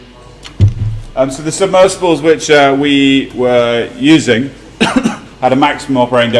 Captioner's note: cough